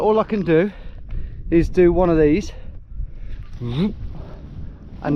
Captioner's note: whoosh